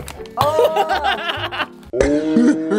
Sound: laughs

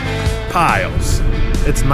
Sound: hissing; groaning

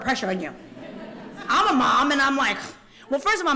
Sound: laughter

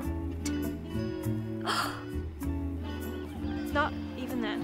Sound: gasps

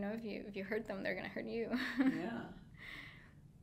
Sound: laughing

